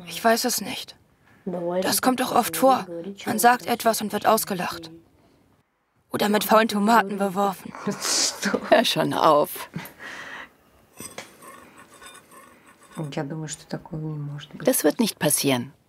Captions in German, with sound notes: Ich weiß es nicht. Das kommt doch oft vor. Man sagt etwas und wird ausgelacht. Oder mit faulen Tomaten beworfen. (lachend:) Hör schon auf! Das wird nicht passieren.